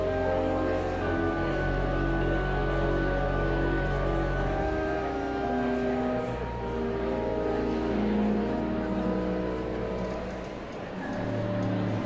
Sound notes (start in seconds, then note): 0.1 whimsical organ music continues; 4.7 audience chattering continues